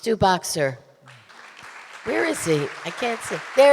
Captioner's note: audience applauding